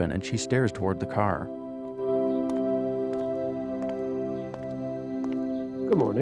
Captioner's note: footsteps approaching